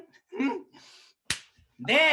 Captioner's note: slap